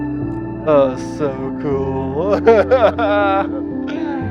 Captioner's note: laughter